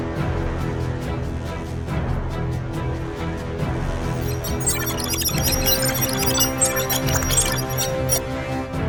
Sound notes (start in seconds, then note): 4.0 male prototype blipping